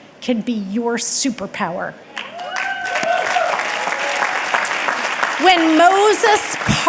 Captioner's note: audience clapping and cheering